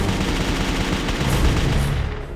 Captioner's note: gunshots